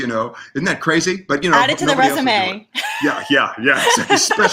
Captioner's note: laughs